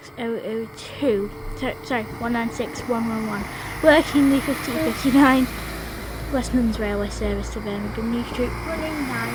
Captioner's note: laughs